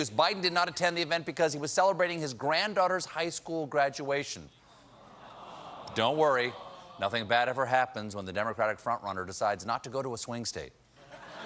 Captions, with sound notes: BIDEN DID NOT ATTEND THE EVENT BECAUSE HE WAS CELEBRATING HIS GRANDDAUGHTER'S HIGH SCHOOL GRADUATION. ( AUDIENCE REACTS ) BUT DON'T WORRY, NOTHING BAD EVER HAPPENS WHEN THE DEMOCRATIC FRONT RUNNER DECIDES NOT TO GO TO A SWING STATE.